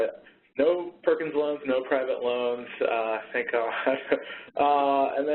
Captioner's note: laughs